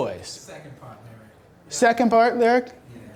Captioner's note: voiceover